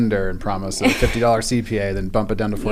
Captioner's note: laugh